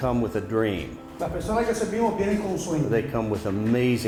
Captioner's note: interpreter speaking in Spanish